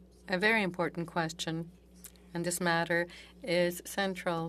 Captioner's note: speaking French